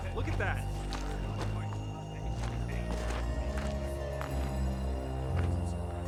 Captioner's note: soldiers murmuring; soldiers murmuring